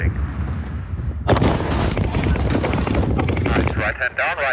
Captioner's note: wheelchair thuds